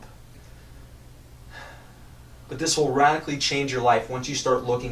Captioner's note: sigh